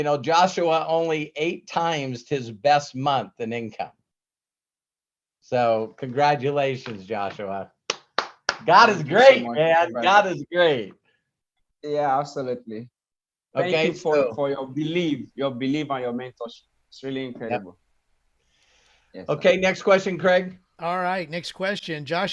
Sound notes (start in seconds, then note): 7.8 applauds